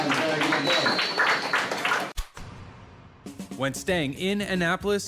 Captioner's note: clapping